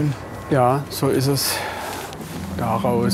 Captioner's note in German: seufzt